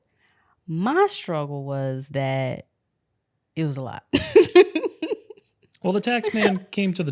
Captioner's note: laughs